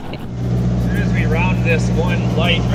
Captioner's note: laughing; boat engine running